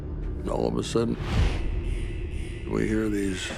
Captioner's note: alarm blaring